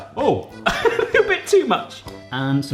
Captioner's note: laughing